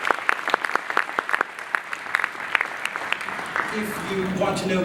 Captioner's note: applause